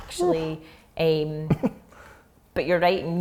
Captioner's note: gasping